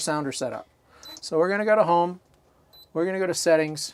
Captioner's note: beeping sound; beeping sound